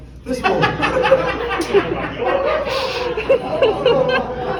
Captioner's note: everyone laughing